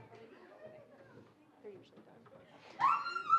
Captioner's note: indistinct chatter